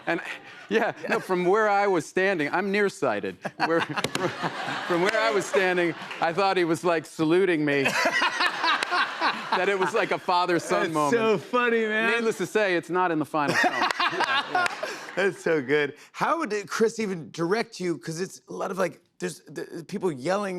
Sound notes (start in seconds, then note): 3.4 laughter; 7.8 laughter; 13.4 laughter